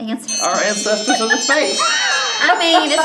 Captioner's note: timer chimes